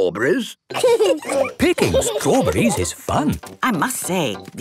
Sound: laughing

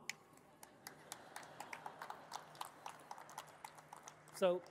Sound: audience laughing and clapping

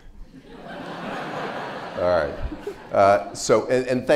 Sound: audience laughs

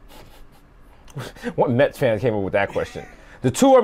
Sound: giggles

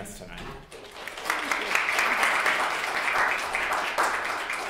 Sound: class clapping

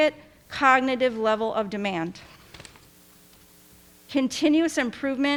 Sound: paper rustling

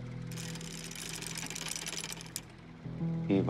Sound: chain rattles

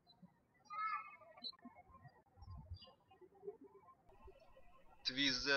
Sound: birds chirping

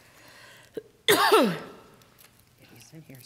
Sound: coughing

